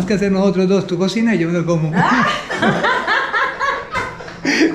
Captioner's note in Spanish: risas